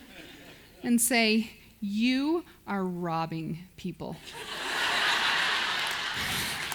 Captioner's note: audience laughs